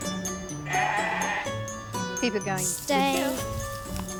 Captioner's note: bleat